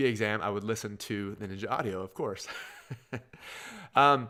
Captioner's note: chuckles